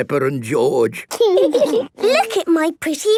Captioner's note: laughing